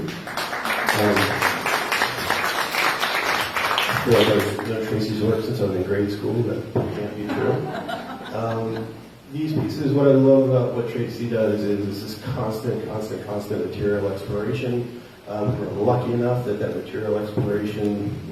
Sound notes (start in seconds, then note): 0.0 applause; 7.2 laughter